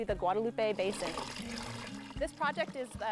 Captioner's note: water pouring into tank